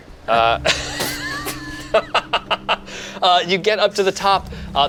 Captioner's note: group laughs